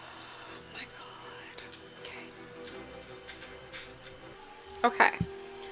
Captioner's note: deep sigh